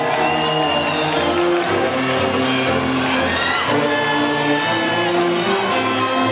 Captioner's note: audience whistling and faintly shouting